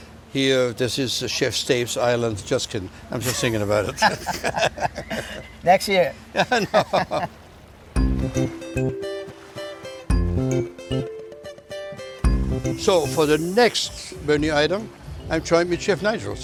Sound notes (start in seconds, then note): 3.2 laughs; 7.7 upbeat music